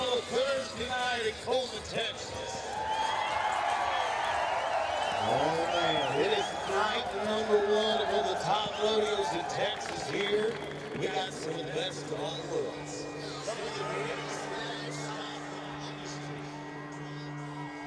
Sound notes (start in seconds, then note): 2.8 crowd cheers; 13.9 gentle cello music